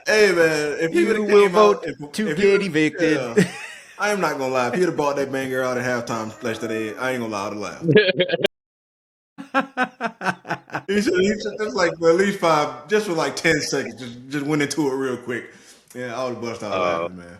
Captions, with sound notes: Hey man, if you will vote to Giddy Bacon I am not gonna lie, Peter bought that man girl at a halftime splash today. I ain't gonna lie, I'll do that. (Laughing) That's like, at least five, just for like 10 seconds, just went into it real quick. Yeah, I was busting out, man.